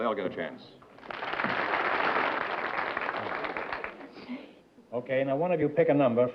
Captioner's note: applause